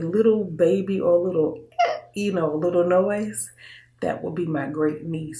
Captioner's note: squeaking